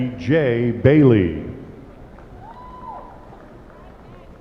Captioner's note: applause